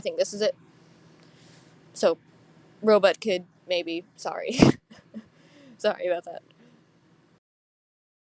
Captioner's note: quiet laughing